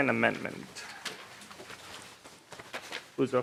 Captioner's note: gavel